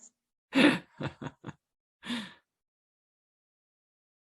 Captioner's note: participants laughing